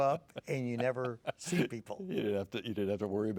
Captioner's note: laughing